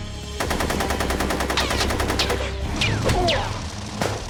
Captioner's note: gunfire